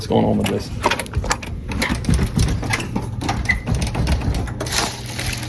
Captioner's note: door clicking continues